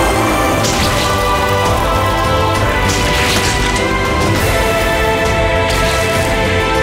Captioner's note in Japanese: デーモンを引き裂く音